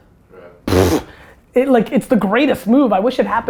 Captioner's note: blows air